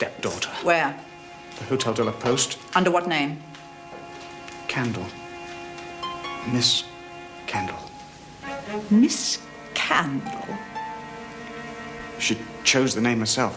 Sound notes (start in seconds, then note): none